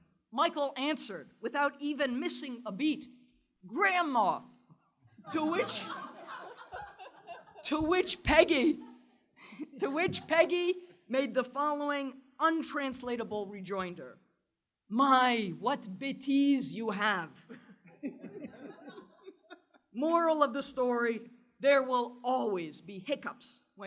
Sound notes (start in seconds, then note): 5.2 laughter; 16.9 french